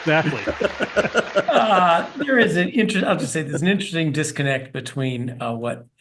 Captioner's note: laugh